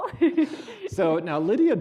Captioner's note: laughing